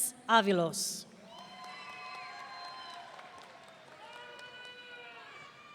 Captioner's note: audience cheering